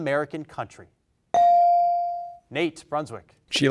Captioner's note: bell rings